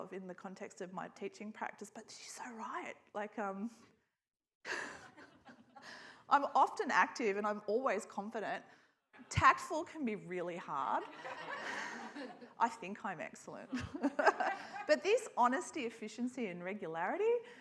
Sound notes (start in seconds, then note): 4.0 laughs; 4.7 scattered laughter; 11.0 audience laughs; 13.7 laughs